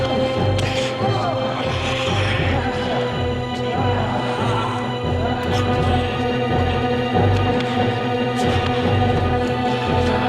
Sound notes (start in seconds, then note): 5.1 Robert choking